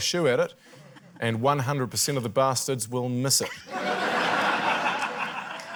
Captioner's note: laughter